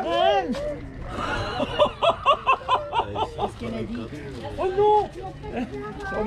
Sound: laughs

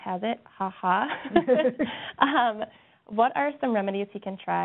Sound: laughs

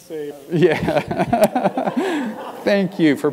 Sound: laugh

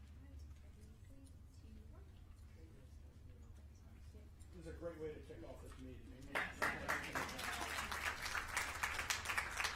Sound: applause

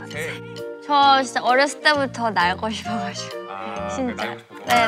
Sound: laughs

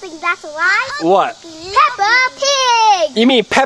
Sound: voiceover

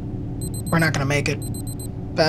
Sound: camera beeping

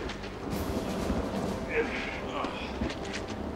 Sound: groaning

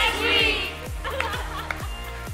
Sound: laughing

